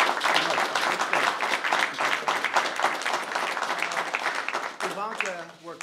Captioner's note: applause